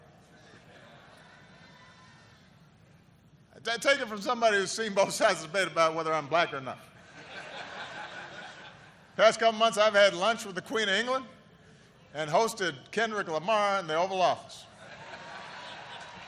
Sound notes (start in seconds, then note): 9.5 laughter